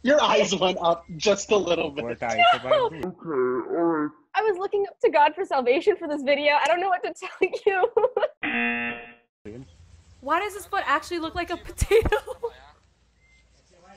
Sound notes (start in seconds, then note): 8.1 laughs; 8.4 buzzer rings